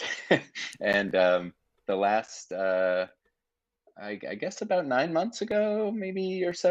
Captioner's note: chuckling